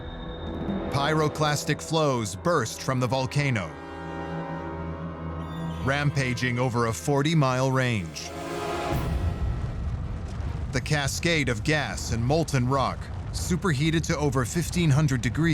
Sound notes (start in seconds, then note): 8.8 fire roaring